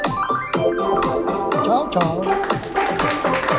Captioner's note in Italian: Applauso